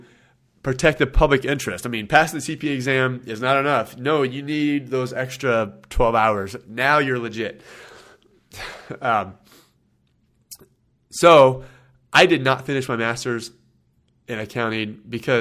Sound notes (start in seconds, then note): 8.4 laughs